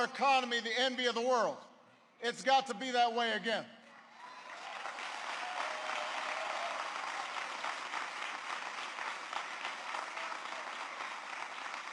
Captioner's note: applause